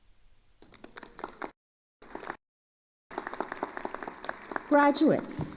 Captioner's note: attendees applauding